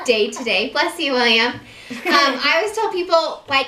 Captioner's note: sneezing